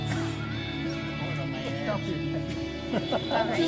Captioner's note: chuckles